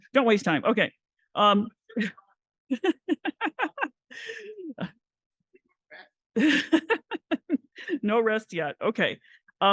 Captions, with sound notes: Don't waste time. [LAUGHS] No rest yet. OK.